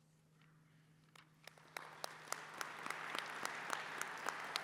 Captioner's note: applause